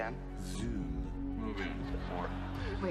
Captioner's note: laughter